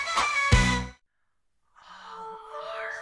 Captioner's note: silence